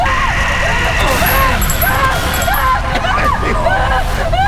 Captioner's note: gun fires